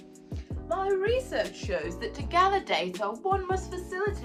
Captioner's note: bad posh accent